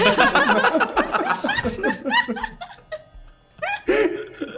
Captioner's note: laughs